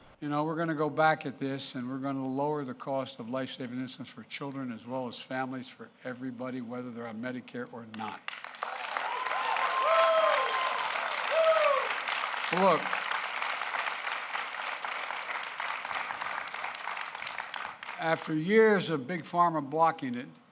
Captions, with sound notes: You know, we're going to go back at this, and we're going to lower the cost of lifesaving insulin for children as well as families for everybody, whether they're on Medicare or not. (Applause.) Look, after years of Big Pharma blocking it,